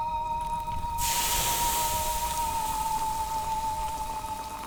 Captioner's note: rock sizzling